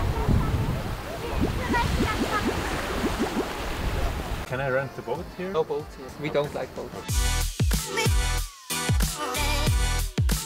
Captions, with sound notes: (bubble sound effects) - Can I rent a boat here? - No boats, we don't like boats. (energetic music)